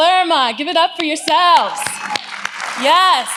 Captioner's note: audience applauds